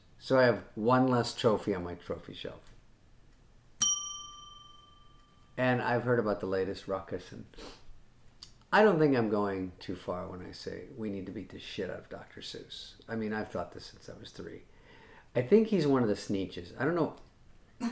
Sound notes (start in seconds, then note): 3.8 bell dinging